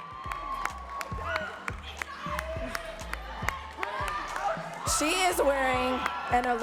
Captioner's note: audience cheering and clapping